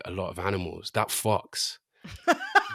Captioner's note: laughter